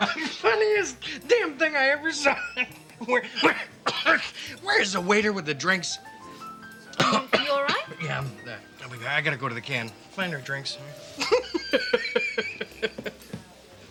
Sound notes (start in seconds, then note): 0.0 Tommy laughing; 6.9 Tommy coughs; 11.2 laughing